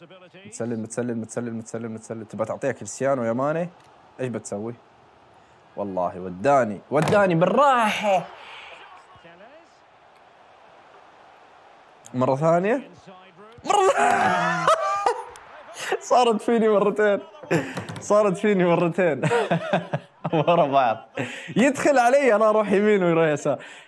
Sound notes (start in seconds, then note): 13.6 laughs